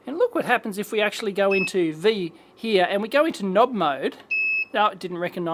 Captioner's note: beep